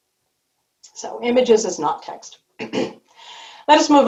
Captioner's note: clears throat